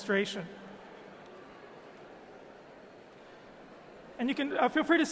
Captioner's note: people chattering